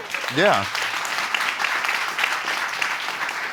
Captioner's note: audience applauding